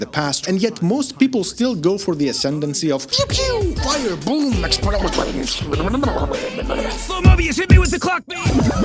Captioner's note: makes random boom sounds